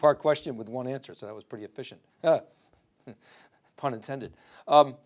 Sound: chuckles

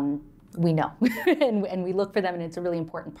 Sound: laughter

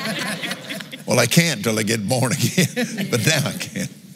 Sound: laughs

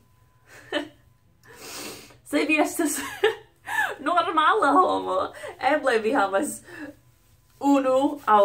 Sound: laugh

